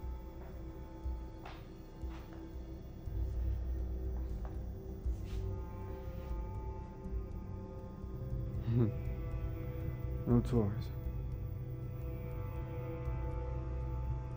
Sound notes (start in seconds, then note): 8.9 laughs; 11.3 suspenseful music